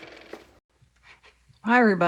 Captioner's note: car motor